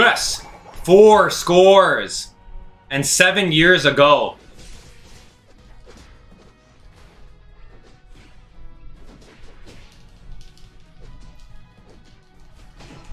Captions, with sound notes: Yes, four scores and seven years a goal. (fighting sounds)